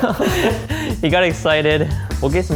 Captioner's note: laughing